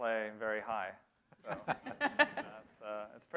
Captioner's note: laughter